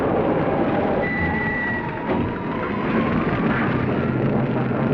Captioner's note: brakes squeal